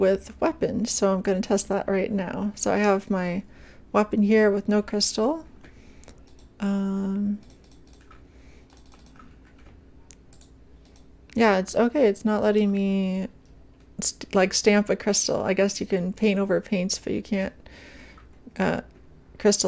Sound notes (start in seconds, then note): 5.2 clicking repeatedly